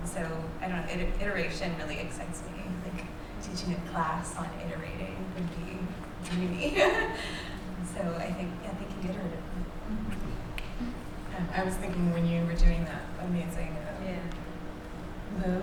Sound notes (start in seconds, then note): 6.8 laughs